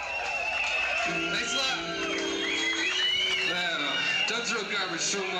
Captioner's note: concert crowd noise